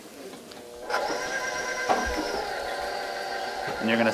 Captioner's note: mixer whirring